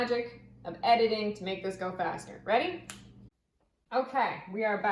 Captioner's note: snaps fingers